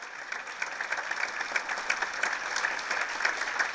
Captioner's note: applause